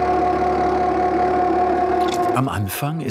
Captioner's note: whirring